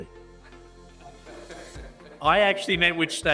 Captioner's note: audience laughs